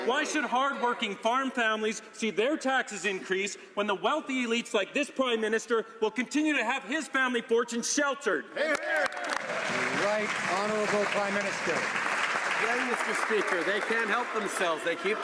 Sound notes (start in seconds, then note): 11.4 some Applause